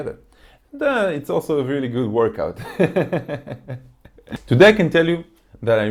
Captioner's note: laughs